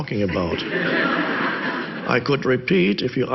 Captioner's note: audience laughs